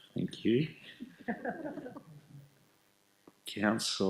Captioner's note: laughing